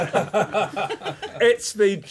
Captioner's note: laughter